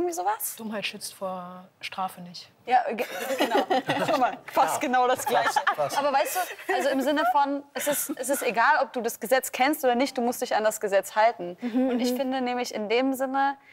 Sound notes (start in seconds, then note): 6.3 laughter